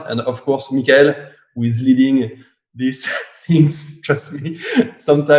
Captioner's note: laughs